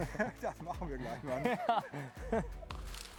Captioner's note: laughter